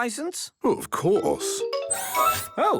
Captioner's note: mechanical arm whirring